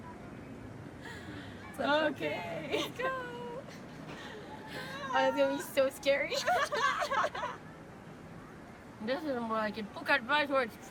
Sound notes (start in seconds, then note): 6.4 laughing